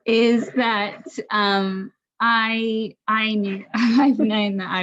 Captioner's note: laughs; laughter